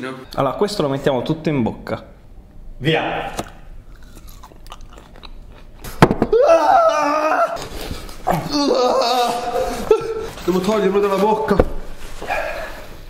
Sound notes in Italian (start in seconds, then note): 3.8 Sgranocchiamento